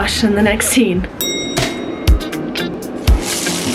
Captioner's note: ding